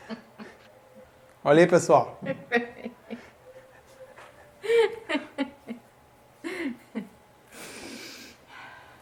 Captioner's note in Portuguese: risos